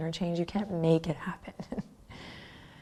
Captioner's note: chuckles